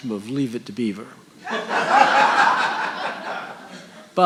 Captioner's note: audience laughing